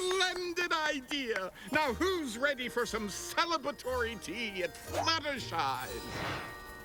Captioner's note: tinkling